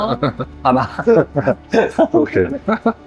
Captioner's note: hahaha